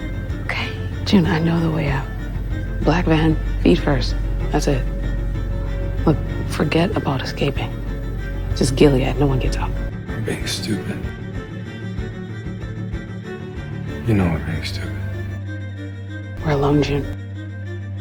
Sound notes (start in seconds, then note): 8.7 voiceover; 16.4 voiceover